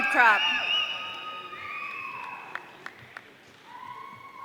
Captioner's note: audience cheering